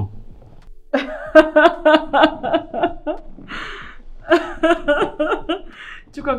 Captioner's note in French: Rires